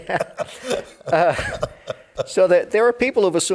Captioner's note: both laughing